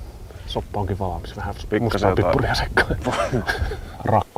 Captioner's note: laughs